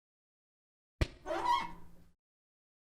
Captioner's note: squeak sound of a hand on a whiteboard